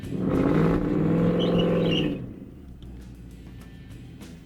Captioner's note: engine roaring